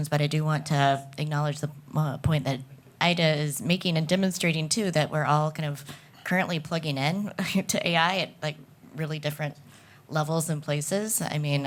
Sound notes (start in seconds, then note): none